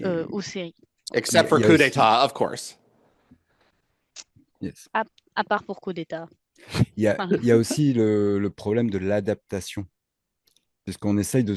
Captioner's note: translating from French